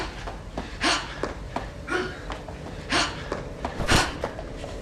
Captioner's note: fighters grunting